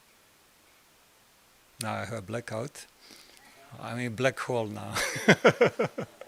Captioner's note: laugh